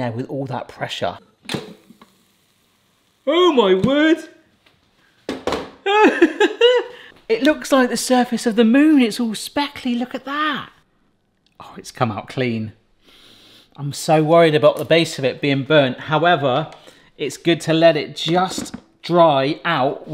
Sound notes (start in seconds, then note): 1.5 lid clunks; 5.9 laughs; 13.2 sniffs